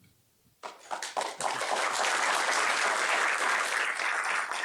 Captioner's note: applause